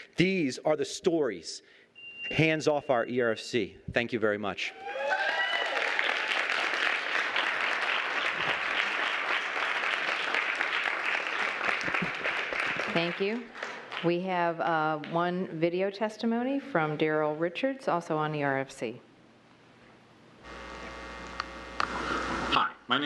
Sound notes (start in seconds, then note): 4.7 cheering and applause